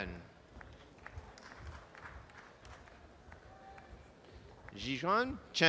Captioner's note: audience applause